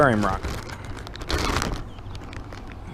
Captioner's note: opens bag